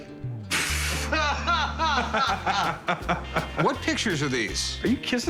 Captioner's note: laughter